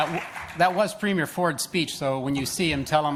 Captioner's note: applause